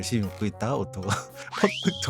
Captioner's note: chuckle